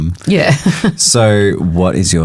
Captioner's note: chuckles